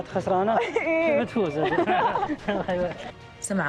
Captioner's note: laughs